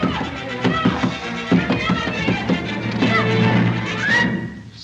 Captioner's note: confused crying for help